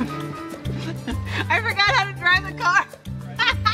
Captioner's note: laughing